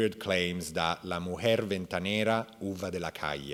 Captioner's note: speaking in Spanish